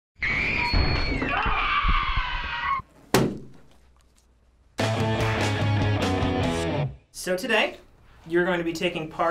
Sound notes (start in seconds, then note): 1.2 boy shrieking; 2.9 balloon popping; 4.8 punk rock intro